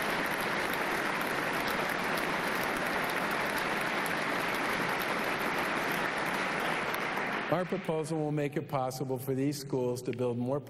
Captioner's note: applause